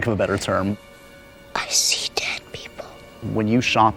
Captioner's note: whispers